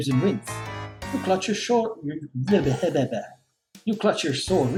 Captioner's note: splutters